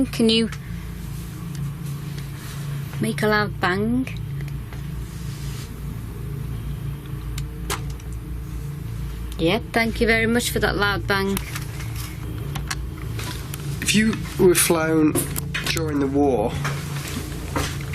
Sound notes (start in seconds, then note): 8.2 soft thumping